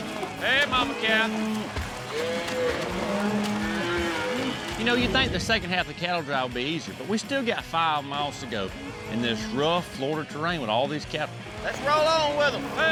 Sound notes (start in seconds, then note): 1.8 cattle moo